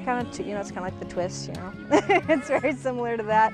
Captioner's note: laughs